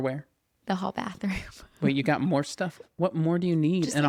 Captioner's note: laughs